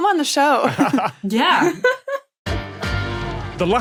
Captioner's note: group laughing